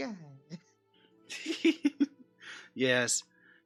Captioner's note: laughs